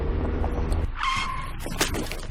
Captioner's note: tire screeching